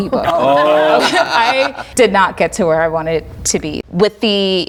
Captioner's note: laughing